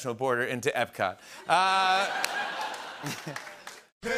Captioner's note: laughter